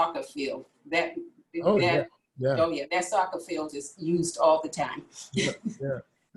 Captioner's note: laughs